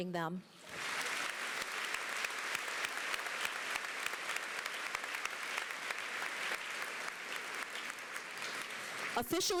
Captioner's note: applause